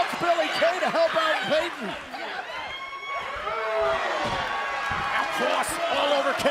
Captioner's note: crowd cheering